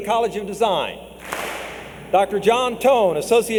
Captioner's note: clap